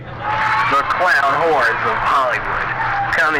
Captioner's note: man On PA